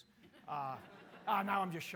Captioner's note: audience laughing